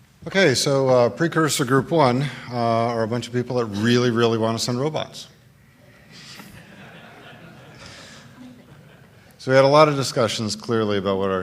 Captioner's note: laughter